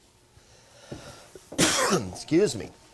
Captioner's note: coughing